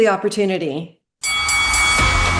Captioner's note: bell ringing; upbeat music